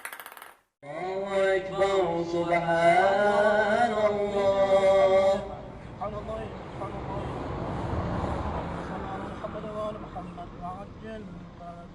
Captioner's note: sound of prayer